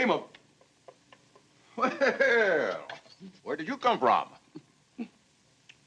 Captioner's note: chuckles